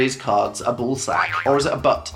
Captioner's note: boinging sound effect